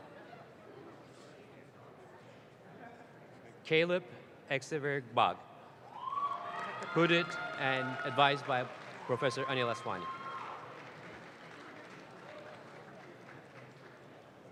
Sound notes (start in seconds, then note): 10.4 audience claps